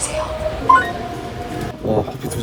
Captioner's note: beep!